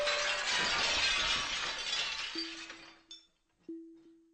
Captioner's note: SFX: Shattering glass